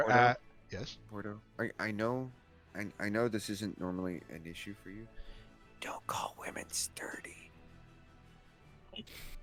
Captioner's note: whispers